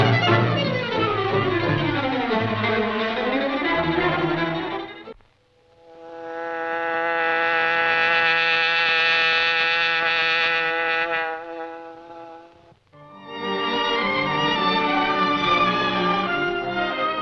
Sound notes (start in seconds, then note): 5.6 hornet buzzing; 13.0 dramatic music